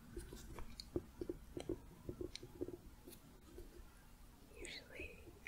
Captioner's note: gentle tapping